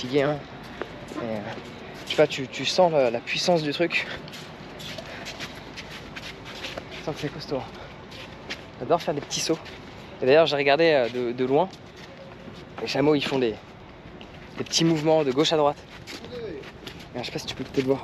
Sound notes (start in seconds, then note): 2.6 speaking in foreign language